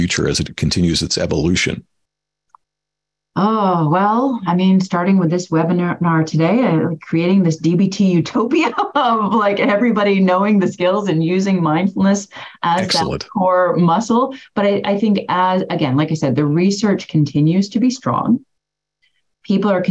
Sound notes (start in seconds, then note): 8.5 laughs